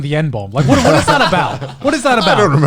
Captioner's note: laughs